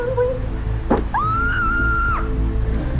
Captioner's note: girl screams